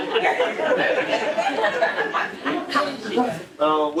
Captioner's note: laughing